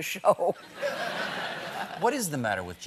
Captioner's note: laughter